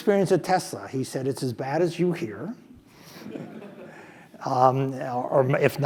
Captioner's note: laugh